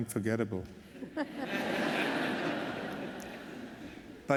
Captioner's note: laughter